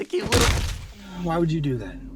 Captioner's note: stomp